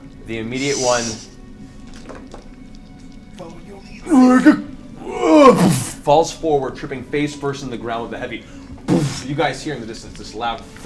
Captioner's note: impact sound